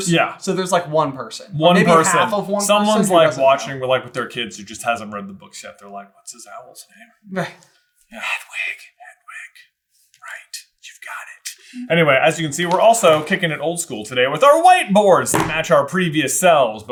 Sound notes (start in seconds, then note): 8.2 whisper